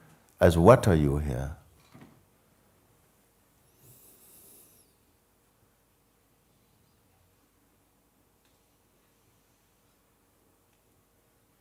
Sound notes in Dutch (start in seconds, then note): 3.8 stilte